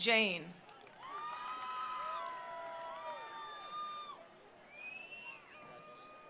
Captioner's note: attendees cheering; attendees applauding